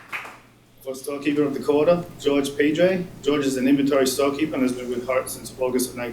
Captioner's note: applause